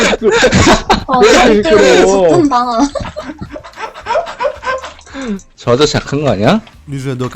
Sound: laughter

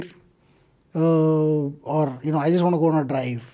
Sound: speaks in Hindi

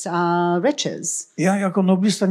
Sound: foreign language

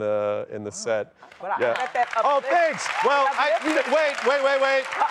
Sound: applause

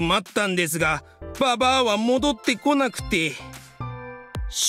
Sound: none

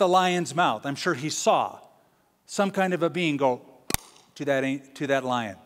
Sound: popping sound

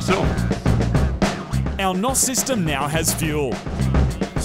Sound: voice over

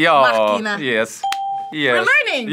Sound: bell rings

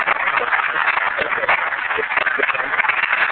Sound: applause

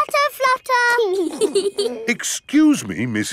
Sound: both giggling

